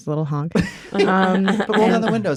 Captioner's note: laughter